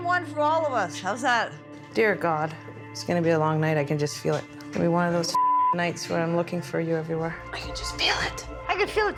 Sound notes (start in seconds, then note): 6.5 whispering